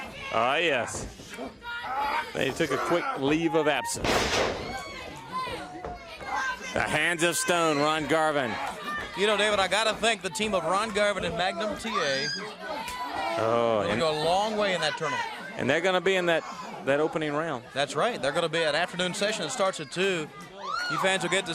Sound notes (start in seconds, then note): 5.4 crowd chatter